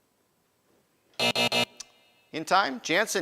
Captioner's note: buzzing